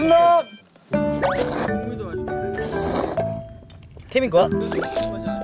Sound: slurp

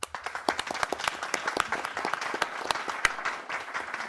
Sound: applause

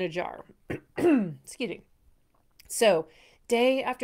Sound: coughing

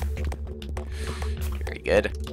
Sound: inhaling

